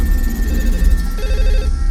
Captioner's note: phone rings